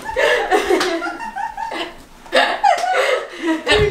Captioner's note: laughing